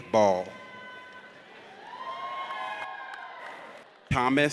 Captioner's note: audience cheers